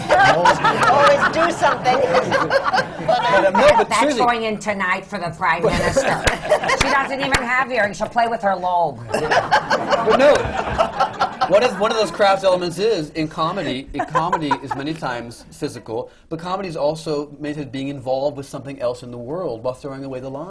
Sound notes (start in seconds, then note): 1.9 in golda’s voice; 6.2 laughter